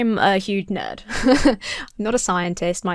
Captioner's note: chuckles